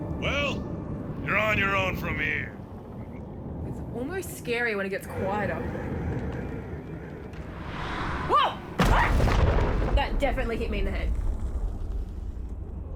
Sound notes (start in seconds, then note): 8.7 thud!